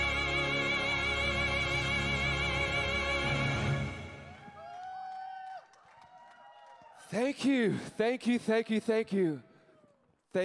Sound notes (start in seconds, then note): 4.0 crowd cheering